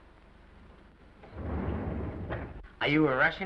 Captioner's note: doors sliding